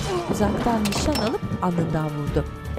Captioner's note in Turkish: Düşme sesi; Müzik - Gerilim